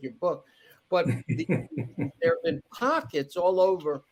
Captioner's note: laughing